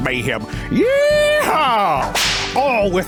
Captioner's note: whip cracks